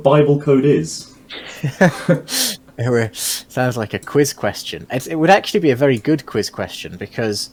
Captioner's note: chuckles